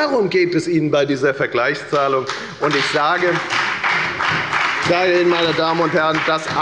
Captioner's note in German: Beifall bei der FDP